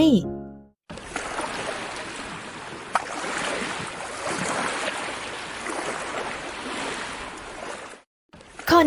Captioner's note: SOUND of waves crashing gently